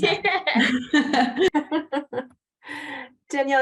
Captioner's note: both laugh